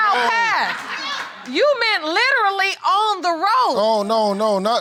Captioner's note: all laughing